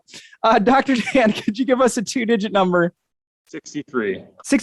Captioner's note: chuckles